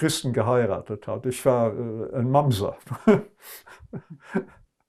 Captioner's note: laughing